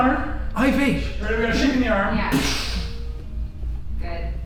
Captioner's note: makes gunshot sfx